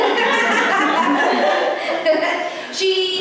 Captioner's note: laughter